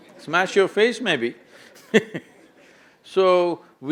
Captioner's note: laughs